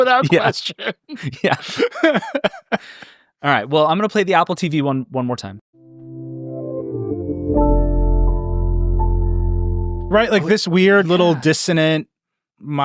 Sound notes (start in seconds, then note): 0.0 laughing; 6.1 warbling zen music